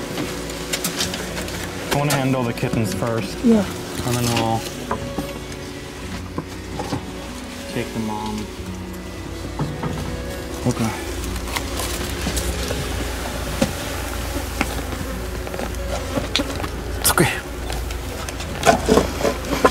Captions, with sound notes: I wanna handle the kittens first. Yeah. And then we'll, take the Mom. Okay. [Flies buzzing] It's okay.